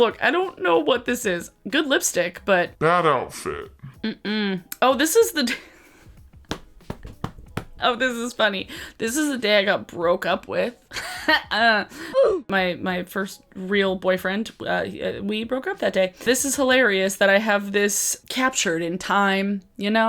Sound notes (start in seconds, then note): 7.0 laughs; 10.8 chuckles